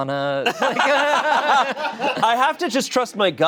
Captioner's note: and audience members laughing